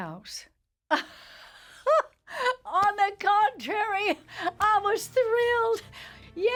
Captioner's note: laughs